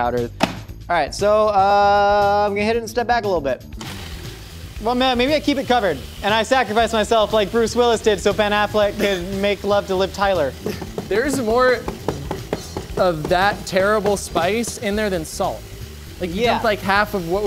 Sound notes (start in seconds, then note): 10.6 laughs